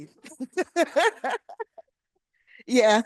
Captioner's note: laughing